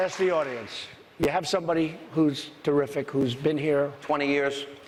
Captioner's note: applause